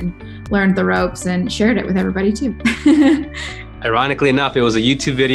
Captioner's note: laughs